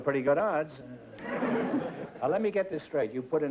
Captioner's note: laughter